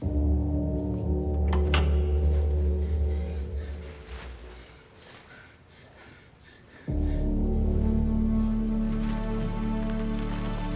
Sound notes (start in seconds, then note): 0.0 ominous ambient music; 3.6 panting; 6.9 dramatic orchestral music